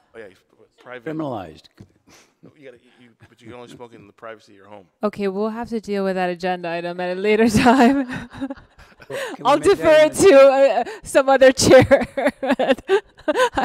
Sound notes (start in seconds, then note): 7.6 laughs; 7.8 everyone laughs; 11.6 laughs